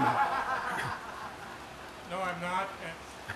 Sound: laughter

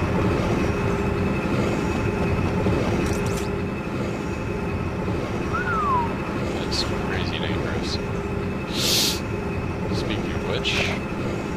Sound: whistles

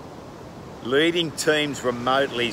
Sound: waves crashing

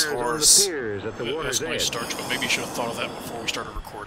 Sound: still groaning; quietly

